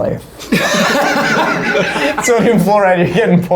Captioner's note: all laughing